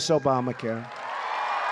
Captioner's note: applause